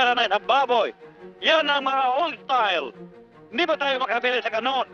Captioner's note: man speaking Tagalog